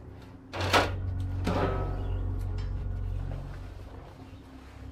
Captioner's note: door closing; grill closing; cover rustling